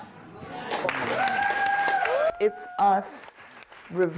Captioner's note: applause